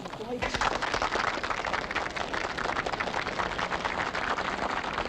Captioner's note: audience applauding